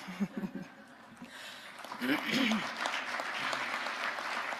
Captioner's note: audience applauding